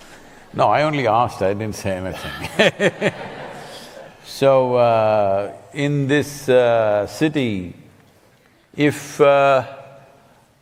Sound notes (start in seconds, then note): 2.2 laughter